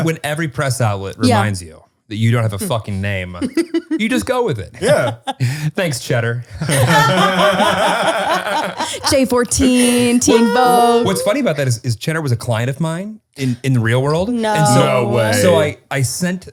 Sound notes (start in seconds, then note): 6.4 all laughing